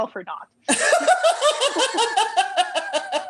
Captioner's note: laughter